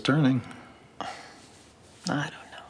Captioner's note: Grace sighs